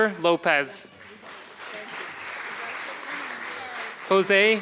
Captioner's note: applause